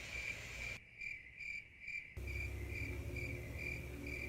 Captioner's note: crickets chirping